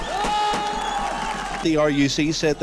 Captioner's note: gunshots echo; crowd cheers